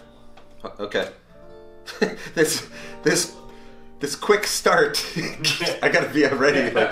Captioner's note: chuckles